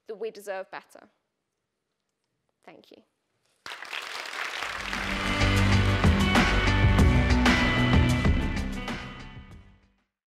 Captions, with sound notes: that we deserve better, thank you. (audience applauds) (upbeat music)